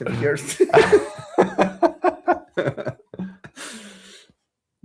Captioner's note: laughs